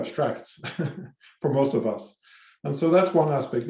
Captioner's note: laughs